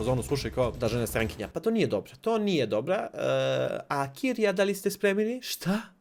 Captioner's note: in French accent